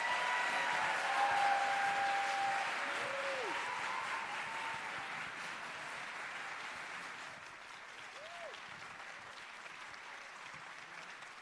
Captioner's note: cheers and applause